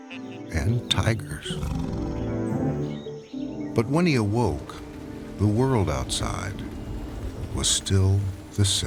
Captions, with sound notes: (tiger roars) But when he awoke, the world outside was still the same.